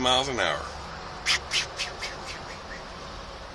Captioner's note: makes swooshing sounds